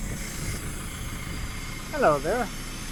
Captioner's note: engine running